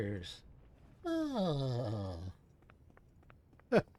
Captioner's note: groan